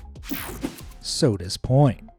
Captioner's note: screen whooshing